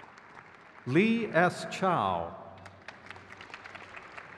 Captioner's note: crowd cheers